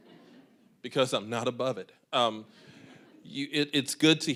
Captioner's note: audience chuckling